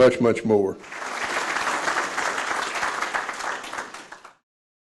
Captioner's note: audience applauds